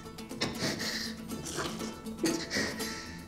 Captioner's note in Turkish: Nefes sesi